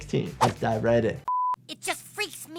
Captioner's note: test pattern beeps